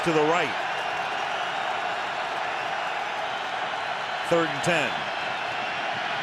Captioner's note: cheering